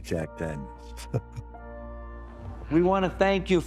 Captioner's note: laughs